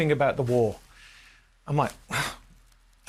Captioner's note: sighs